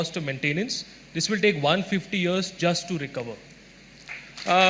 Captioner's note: applause